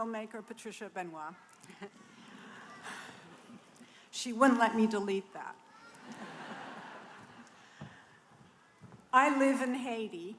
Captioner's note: laughter